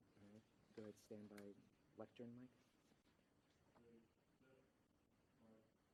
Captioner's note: voiceover